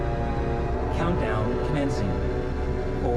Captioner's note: computer voice